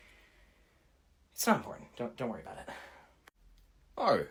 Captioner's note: quietly